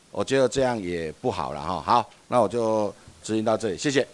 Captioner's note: minnan dialect